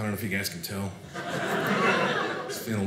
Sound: audience laughing

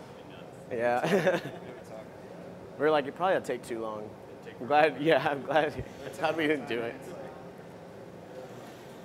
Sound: laughter

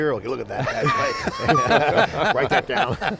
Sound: group laughing

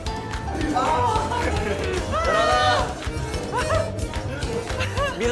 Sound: wailing

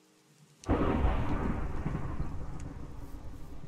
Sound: thunder cracks

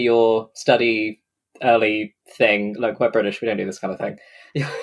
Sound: laughs

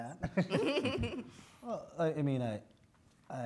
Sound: both laugh

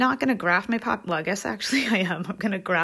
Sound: chuckles

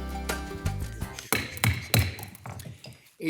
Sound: gavel taps

